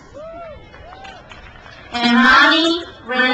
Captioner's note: crowd cheers